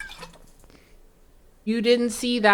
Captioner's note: spills water